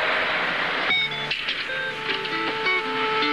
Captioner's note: door Closes